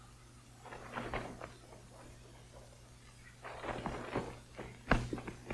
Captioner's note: footsteps approaching